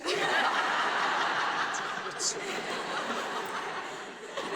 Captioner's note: audience laughs